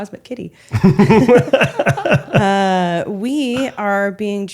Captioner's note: laughing